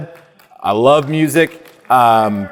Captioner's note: audience applauding